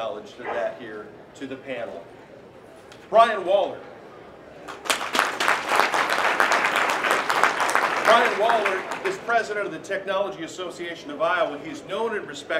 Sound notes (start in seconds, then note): 4.6 applause